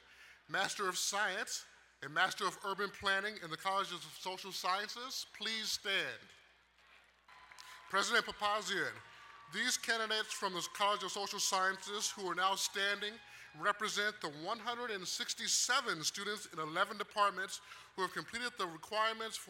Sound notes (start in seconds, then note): 7.2 crowd cheering and applauding